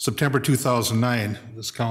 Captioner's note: none